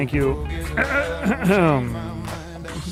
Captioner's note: clears throat